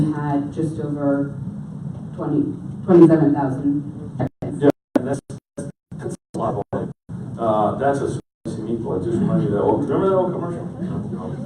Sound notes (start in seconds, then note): 8.1 audio cutting out; 9.5 audience laughs